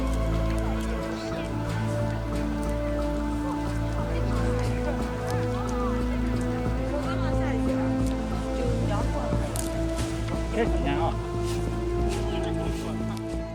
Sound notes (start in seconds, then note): 6.7 woman speaking Chinese